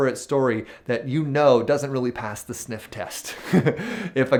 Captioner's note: chuckles